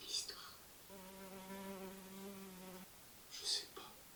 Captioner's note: buzzing